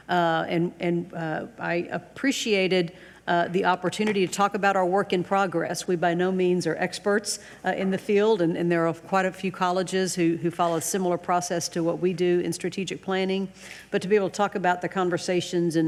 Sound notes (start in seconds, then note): none